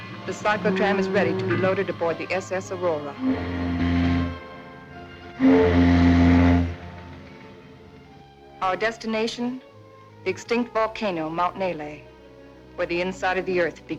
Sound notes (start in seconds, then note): 3.0 steam horn blowing